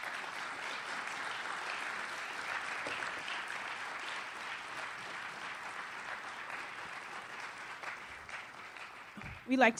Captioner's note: audience applauds